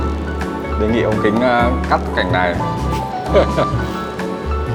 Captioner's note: laugh